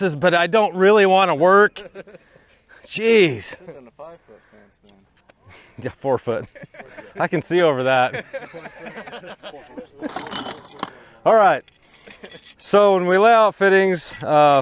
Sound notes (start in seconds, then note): 1.4 men laughing; 5.4 men laughing; 10.0 metals clanking